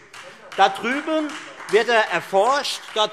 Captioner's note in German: Beifall Freie Demokraten